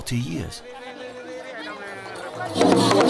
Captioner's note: people chatting